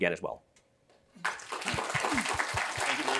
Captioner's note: applause